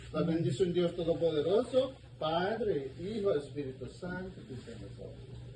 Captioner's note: priest speaking in foreign language